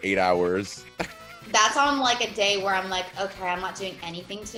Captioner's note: laugh